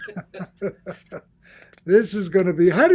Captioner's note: laughs